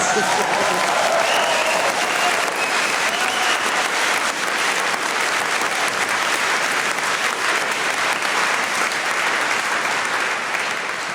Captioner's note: applause